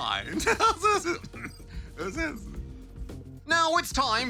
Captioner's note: laughs